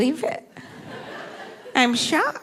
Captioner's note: audience laughing